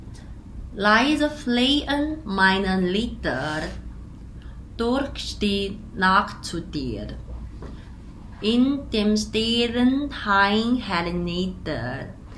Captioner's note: German